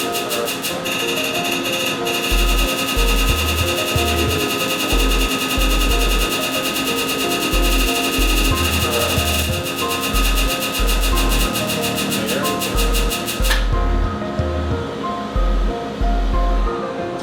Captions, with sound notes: Perfect. (laser sounds) Beautiful. (laser sounds) Perfect. (laser sounds) Very good. (slow music)